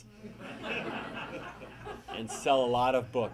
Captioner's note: audience laughing